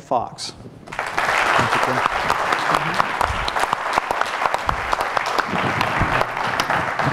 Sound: applause

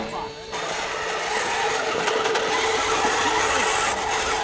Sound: motor whining

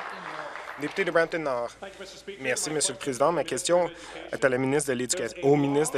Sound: applause

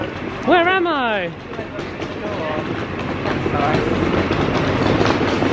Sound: footsteps thudding

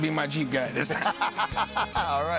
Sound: laughs

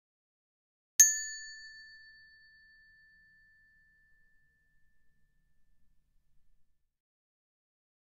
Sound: sound of hand bell

